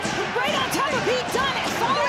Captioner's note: audience cheering